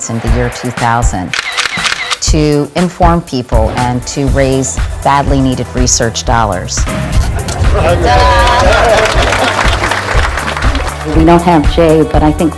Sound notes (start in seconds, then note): 8.4 clapping